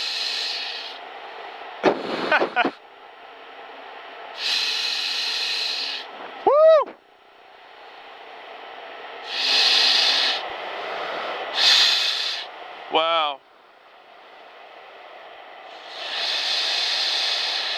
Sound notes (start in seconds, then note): 2.2 laughing